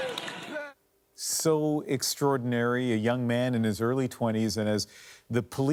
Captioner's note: cheering; crying